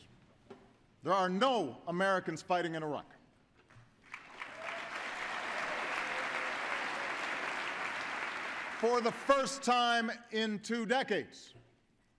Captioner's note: applause